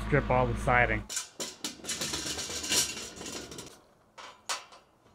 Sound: scaffolding clunking

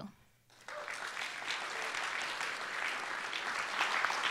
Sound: applause

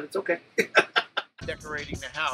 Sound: laughs

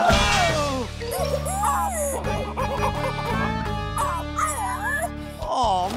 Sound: squeaking

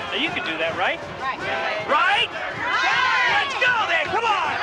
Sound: women cheering

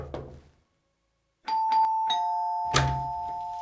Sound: door knocks; doorbell rings

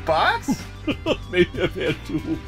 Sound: laughs

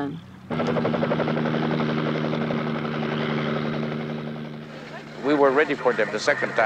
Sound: helicopter blades chopping

